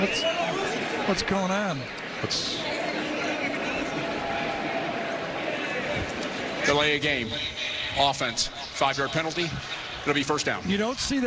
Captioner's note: whistle blowing